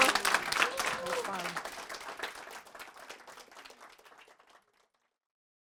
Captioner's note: applause